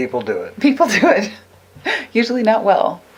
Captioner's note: laughs